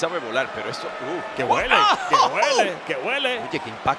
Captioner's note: laugh